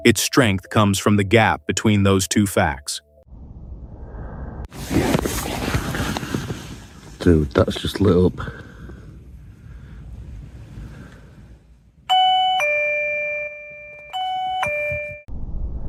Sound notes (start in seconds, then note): 3.2 alarm activates